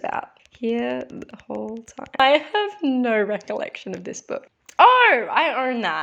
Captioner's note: typing